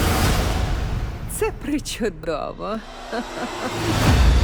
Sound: laughs

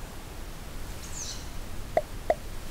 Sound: cute squeaky bird

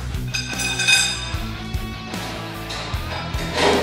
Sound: metal clinking

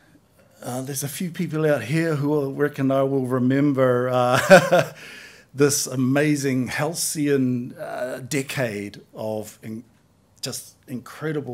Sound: laughs

